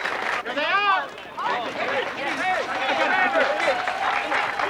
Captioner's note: chattering; applauding